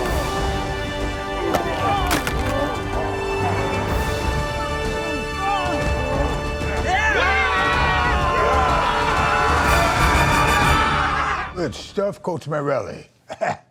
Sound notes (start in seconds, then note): 0.2 calm music; 7.2 all shouting